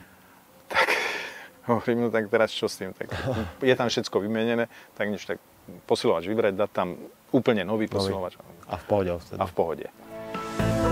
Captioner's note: sigh